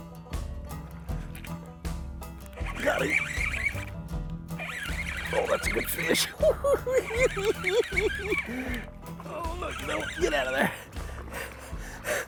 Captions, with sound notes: Got him! Oh that's a good fish! [cackling] Oh look, no.. get out of there!